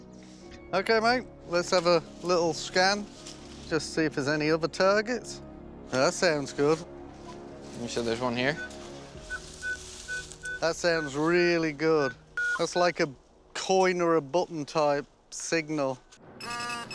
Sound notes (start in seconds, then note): 9.2 beeping